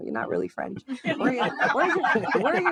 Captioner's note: audience laughing